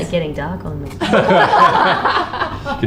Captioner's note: band laughs